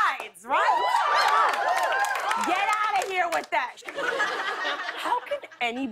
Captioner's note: cheers and applause